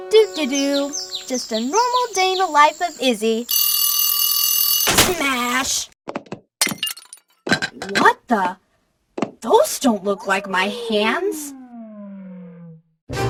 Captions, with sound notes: Doo-de-doo. (birds chirping) Just a normal day in the life of Izzy. (alarm clock ringing) Smash! (sink shattering) What the? Those don't look like my hands!